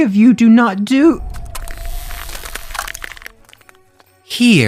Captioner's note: water splashing